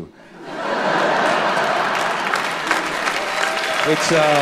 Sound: laughter, applause

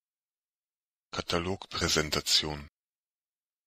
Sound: fast Pronunciation

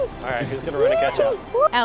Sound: laughter

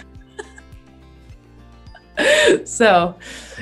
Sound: both laugh

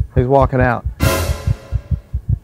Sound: suspenseful crash; heart thumping

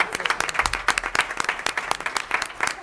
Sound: applause

